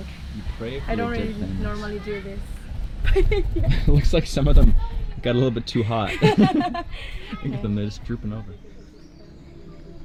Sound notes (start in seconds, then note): 3.0 laughing; 6.0 laughing